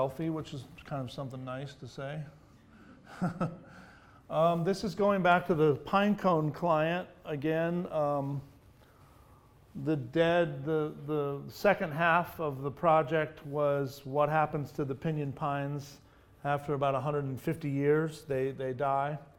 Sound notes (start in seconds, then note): 3.0 laughs; 3.4 audience laughs